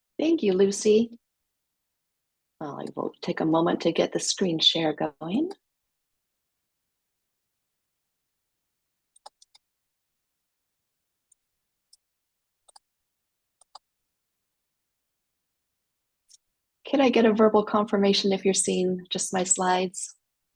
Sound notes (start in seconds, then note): 9.1 mouse clicks